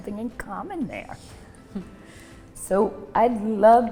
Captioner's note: laughs